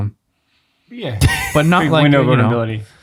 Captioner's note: friar laughs